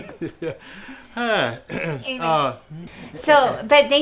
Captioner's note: laughs; clears throat